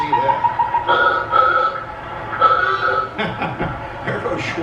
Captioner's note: car horn sounds outside